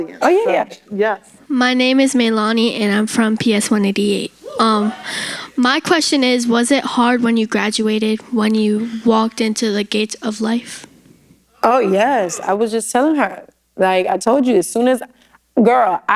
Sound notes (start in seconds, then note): none